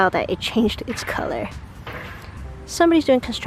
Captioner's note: hammer noises